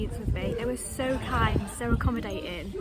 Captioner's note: none